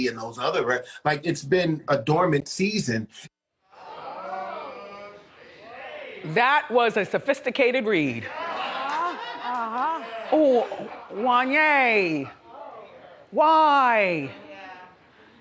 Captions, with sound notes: and those other records. It's been a dormant season. (audience murmurs) Jeez! That was a sophisticated read. Oh, Wanya, why? Yeah.